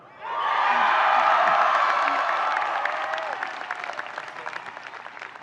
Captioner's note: audience cheering and applauding